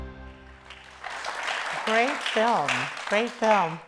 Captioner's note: audience applauds